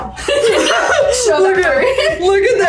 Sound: laugh

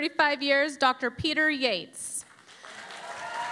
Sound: cheering and Applause

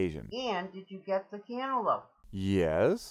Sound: voiceover

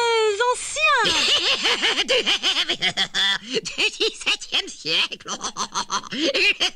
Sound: laughing wildly; continues laughing

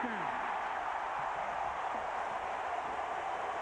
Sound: cheering, applause

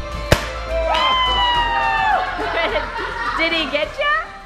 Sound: everyone cheering and laughing

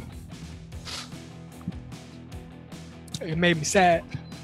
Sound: man sniffles

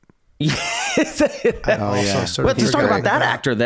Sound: all laughing

